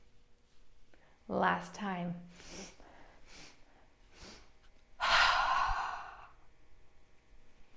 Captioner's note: 3 breaths in and one exhale